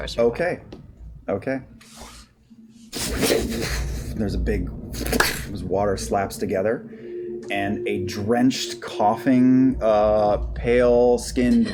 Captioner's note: splash